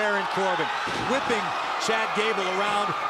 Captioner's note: crowd cheering